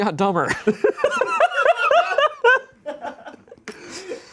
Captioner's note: laughs